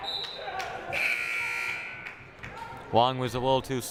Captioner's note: whistle blaring; buzzer blaring